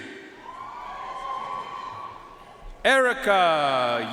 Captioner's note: audience cheering and applauding